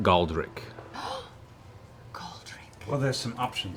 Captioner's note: gasps